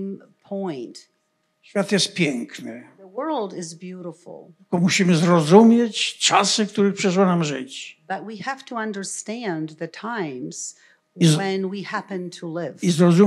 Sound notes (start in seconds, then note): 0.5 foreign language; 4.5 foreign language